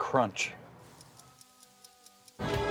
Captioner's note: timer ticking; singing badly